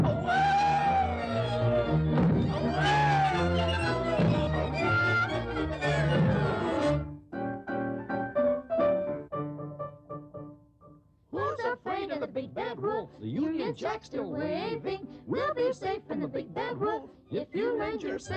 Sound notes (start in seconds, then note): 0.0 yelp; 0.1 thud; 2.6 yelp; 4.2 thud; 4.2 yelp; 6.2 thud; 6.2 yelp; 6.8 piano Playing; 10.3 singing